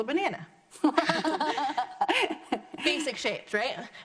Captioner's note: laughs